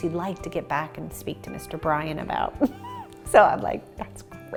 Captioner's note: laughs